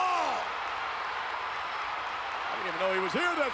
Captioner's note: spectators cheering